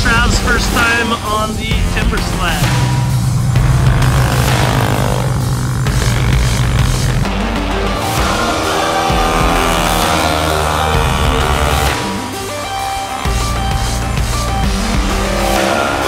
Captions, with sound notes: Trav's first time on the timbersled. (motor revving) (inspirational upbeat music)